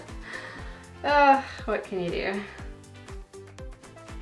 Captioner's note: sighs; soft pop music